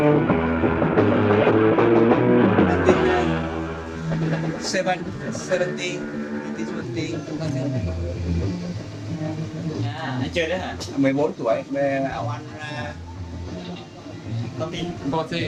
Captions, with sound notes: Seven, 70, 1970. (speaking foreign language)